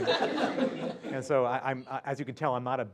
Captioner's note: laugh